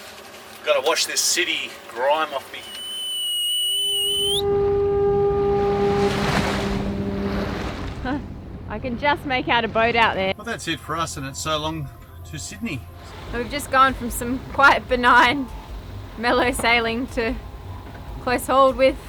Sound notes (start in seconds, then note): 2.5 whistles; 3.5 ship's horn in the distance